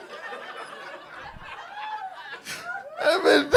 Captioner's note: laughing; audience laughing; cackling